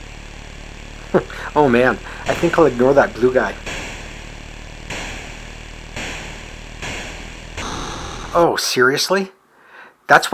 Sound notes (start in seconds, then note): 0.9 chuckles; 4.8 gun shots